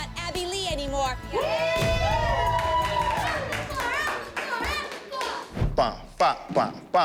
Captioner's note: cheering